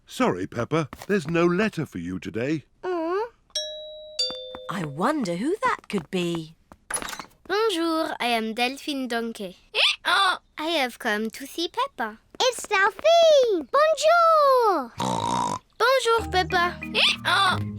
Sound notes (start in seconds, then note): 3.2 groans; 3.5 doorbell; 10.4 brays; 15.0 snorts